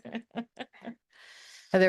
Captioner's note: laughter